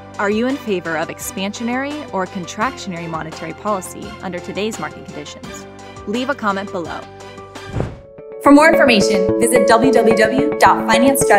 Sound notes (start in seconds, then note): 7.6 swish